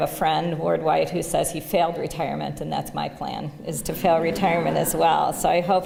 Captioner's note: laughter